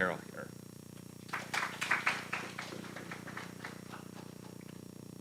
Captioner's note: applause